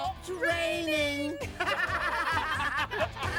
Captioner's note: all laughing